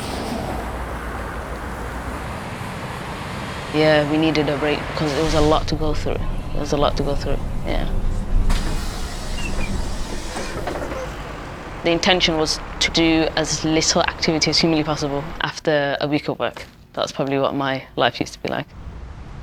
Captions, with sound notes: (traffic rushing by) Yeah, we needed a break, because it was a lot to go through. It was a lot to go through, yeah. (bus door hisses) (bus riders chatting) The intention was to do as little activity as humanly possible after a week of work. That's probably what my life used to be like.